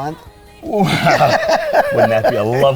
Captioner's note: laughs